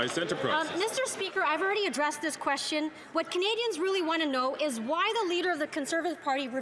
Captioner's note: some Applause